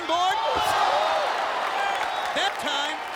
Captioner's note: crowd cheering